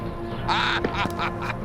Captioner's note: laughing